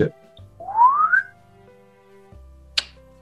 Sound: whistles " "

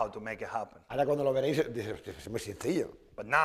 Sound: speaking spanish

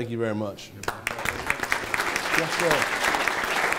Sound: attendees applauding

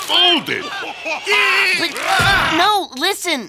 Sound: grunting

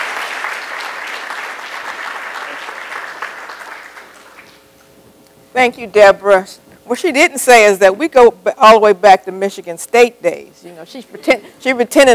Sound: applause

